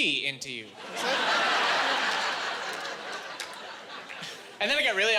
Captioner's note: laughing